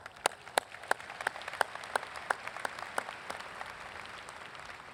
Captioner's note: audience applauds